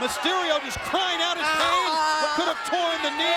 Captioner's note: Mysterio groaning